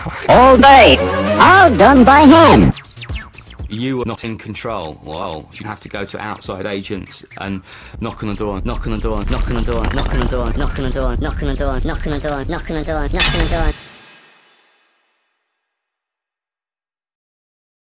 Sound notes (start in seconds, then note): 13.2 clank